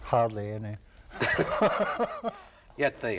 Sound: both laugh

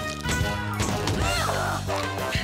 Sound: grunts

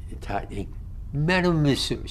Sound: french

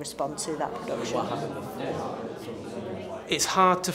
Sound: students chattering

